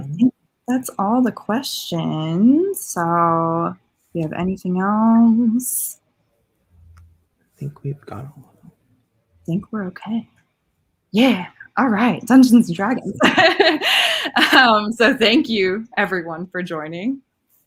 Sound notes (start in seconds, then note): 13.1 laughing